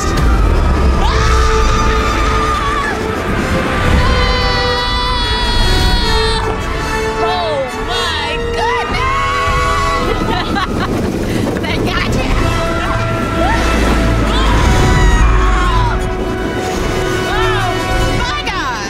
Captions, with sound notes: (both screaming) - Oh my goodness. (laughing) (both screaming) - Oh my God!